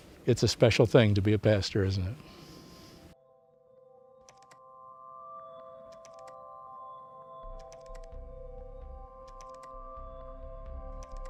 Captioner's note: keyboard clicking